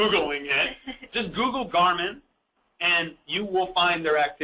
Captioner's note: chuckles